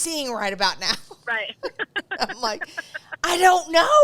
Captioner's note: laughs